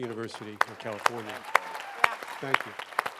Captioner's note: applause